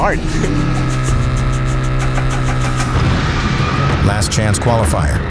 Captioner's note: engine revving